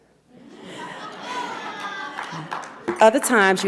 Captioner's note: audience laughs; audience member applauds